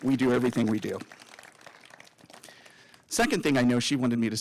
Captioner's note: applause